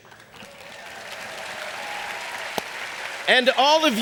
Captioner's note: audience applauding